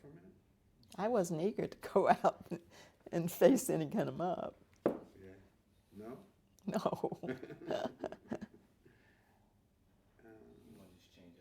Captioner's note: Nash, laughing